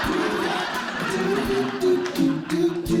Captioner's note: audience Laughing